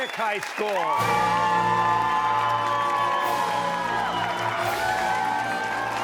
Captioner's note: cheers and applause